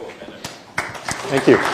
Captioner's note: applause